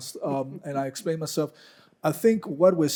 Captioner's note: chuckling